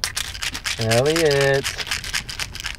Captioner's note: pills rattling